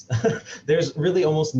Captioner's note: chuckles